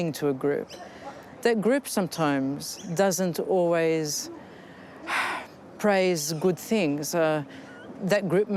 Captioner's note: sighs